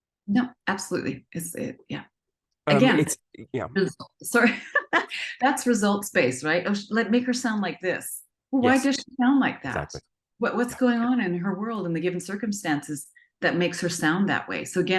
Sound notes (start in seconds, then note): 2.7 laughs